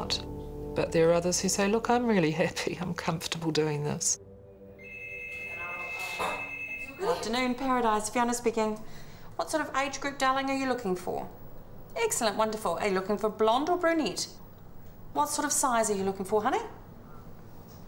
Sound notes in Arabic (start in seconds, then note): 4.8 رنين الهاتف